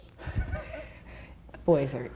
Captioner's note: laughing